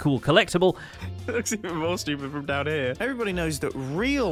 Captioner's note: laughs